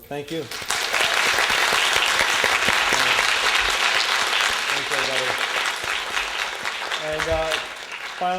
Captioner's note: applause and cheers